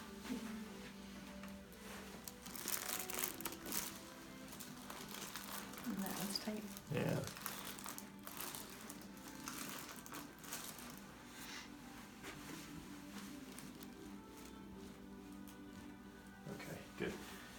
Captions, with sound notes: - That one's kind of-- - Yeah. (paper crinkling) Okay, good.